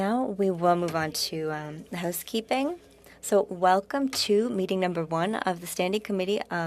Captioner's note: speaking French